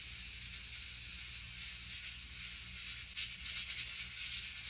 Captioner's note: #Rice cooker sound